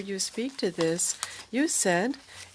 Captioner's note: speaking french